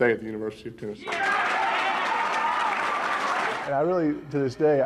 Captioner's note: cheering